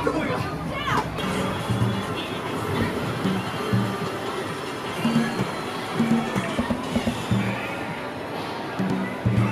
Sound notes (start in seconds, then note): 2.6 gaming Machine Sounds